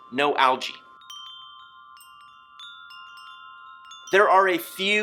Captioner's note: wind chimes chiming